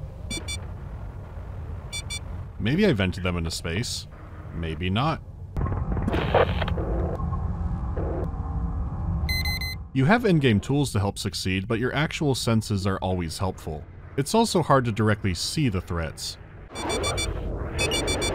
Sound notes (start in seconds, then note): 0.2 bee-beep, bee-beep; 9.3 bee-bee-beep